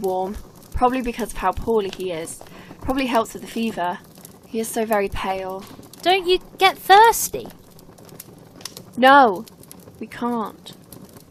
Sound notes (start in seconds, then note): none